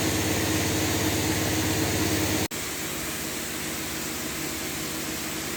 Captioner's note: spraying continues